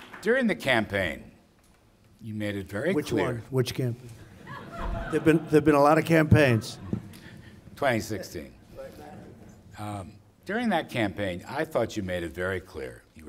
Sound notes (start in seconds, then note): 0.0 applause; 4.2 laughter